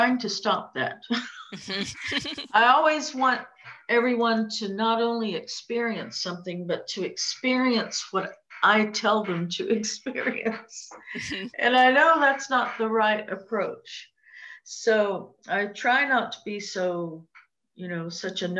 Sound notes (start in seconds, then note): 1.1 laughter; 11.0 laughs